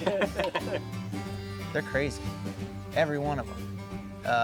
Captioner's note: laughing